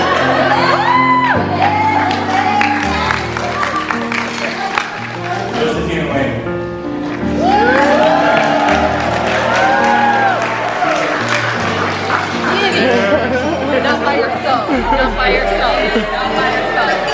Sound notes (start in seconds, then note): 0.0 crowd laughing and cheering; 8.8 crowd cheering